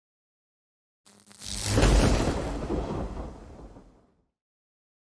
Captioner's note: zapping sound